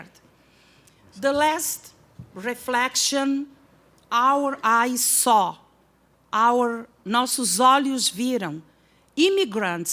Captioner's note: non-english speech